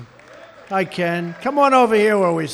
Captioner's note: applause